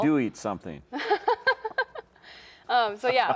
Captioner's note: laughs